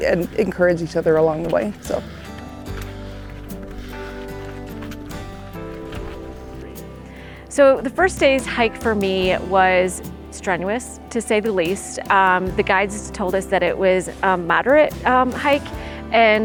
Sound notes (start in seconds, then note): 2.7 footsteps rustling; 2.7 gentle music